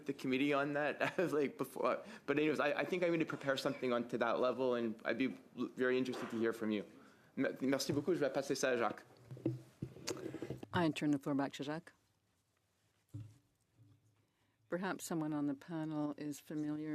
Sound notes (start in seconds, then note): 15.7 speaking French